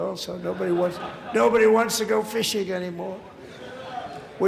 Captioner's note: laughter